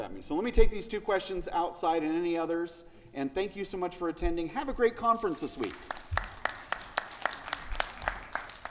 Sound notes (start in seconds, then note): 5.6 audience applauding